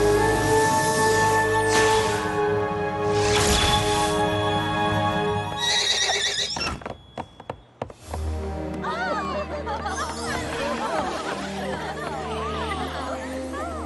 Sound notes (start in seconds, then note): 3.2 zap; 5.6 whinny; 9.0 excited chatter